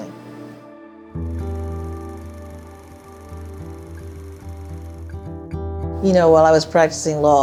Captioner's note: soft music; film projector sound